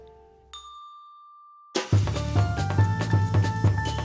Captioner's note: bell dinging; energetic jazz music